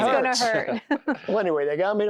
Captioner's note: giggling